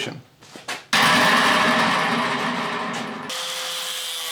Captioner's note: metal banging; saw grinding